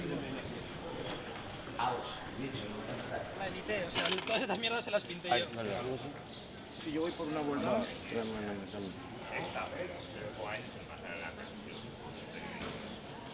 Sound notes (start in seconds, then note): 4.6 coin clinks